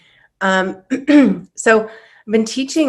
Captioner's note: clears throat